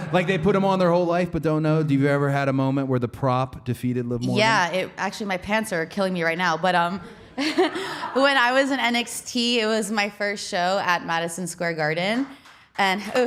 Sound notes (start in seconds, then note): 7.2 Liv laughing